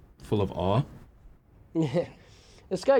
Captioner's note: sarcastic laugh